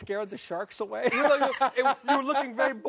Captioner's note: laughing